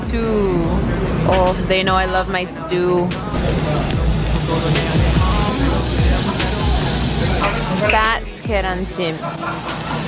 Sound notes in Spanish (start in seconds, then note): 3.3 carne chisporroteante